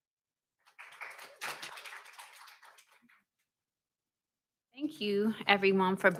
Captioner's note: audience clapping loudly